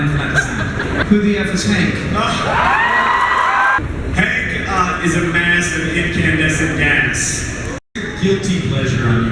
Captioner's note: crowd cheers